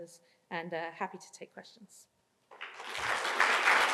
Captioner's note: applause